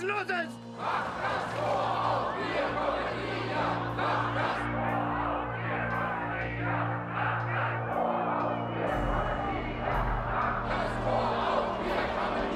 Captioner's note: chant